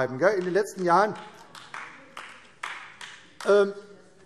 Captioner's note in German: Beifall AfD